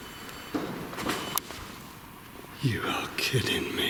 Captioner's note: light beeping